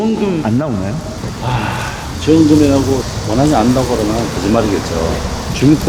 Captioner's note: sigh